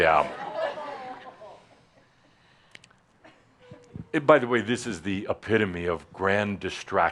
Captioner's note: some chuckles, as she reluctantly takes the mike